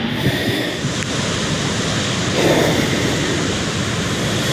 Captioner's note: heart beating fast; heavy breathing